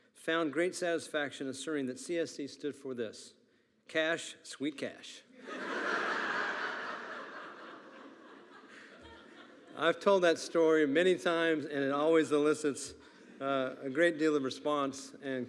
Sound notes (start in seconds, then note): 5.4 attendees laughing